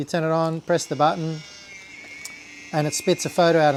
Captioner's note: camera whirring